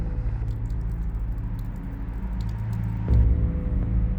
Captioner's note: rain patters; ominous music